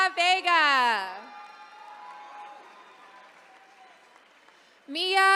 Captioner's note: attendees cheering